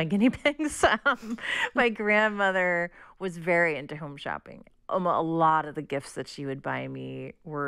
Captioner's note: laughter